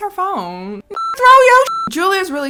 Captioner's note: beep